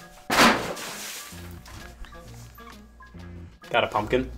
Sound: water splashing

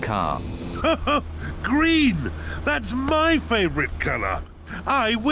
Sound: laughs

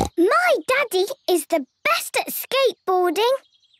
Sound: snorts

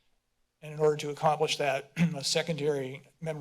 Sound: clears throat

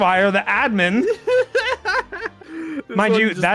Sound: laughs

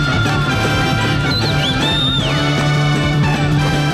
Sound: whistling

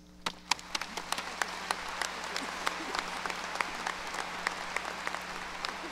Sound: audience applause

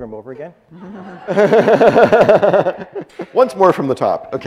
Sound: audience laughs

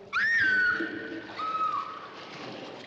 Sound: screams

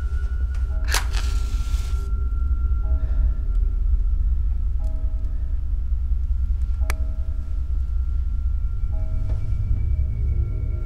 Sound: clock tolling

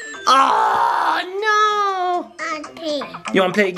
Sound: yells

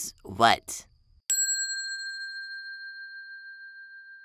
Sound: bell dinging

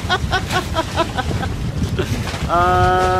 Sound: laughs

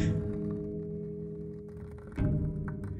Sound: gasps

